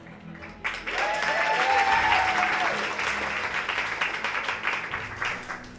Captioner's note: audience cheering